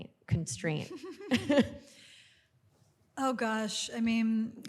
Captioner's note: chuckles